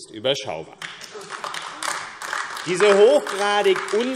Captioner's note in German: Heiterkeit und Beifall AfD